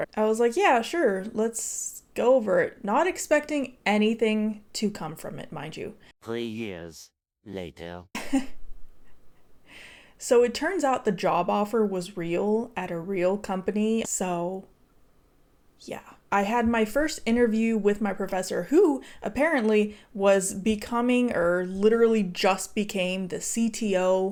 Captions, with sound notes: I was like, yeah, sure, let's go over it. Not expecting anything to come from it, mind you. Three years later. (chuckling) So it turns out the job offer was real at a real company. So yeah, I had my first interview with my professor who apparently was becoming or literally just became the CTO